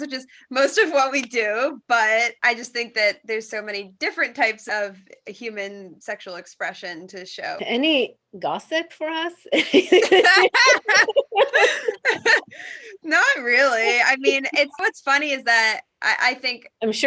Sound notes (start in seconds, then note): 9.5 laughs happily